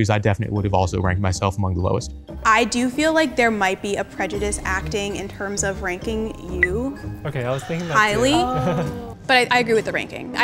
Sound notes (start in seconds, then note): 7.4 laughing